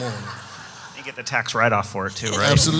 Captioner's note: audience laughs